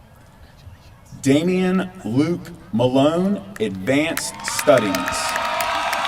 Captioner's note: applause